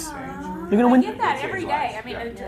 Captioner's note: woman coos